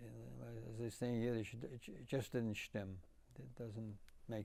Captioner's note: yiddish